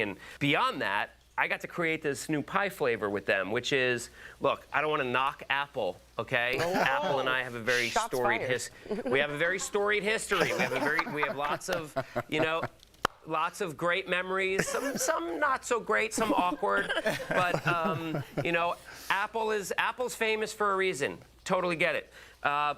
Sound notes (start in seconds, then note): 16.2 laughter